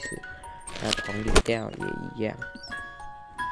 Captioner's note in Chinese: 撕東西聲